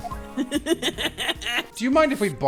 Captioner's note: laughter